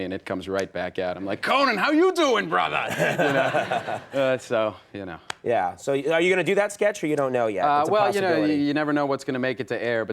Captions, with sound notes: and it comes right back out. I'm like, Conan, how you doin' brotha? (audience laughs) So you know. Yeah, so are you going to do that sketch or you don't know yet? Well, you never know what's going to make it to air